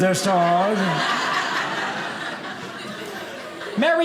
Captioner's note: audience laughing